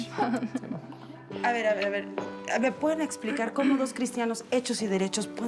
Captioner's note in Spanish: Risas y besos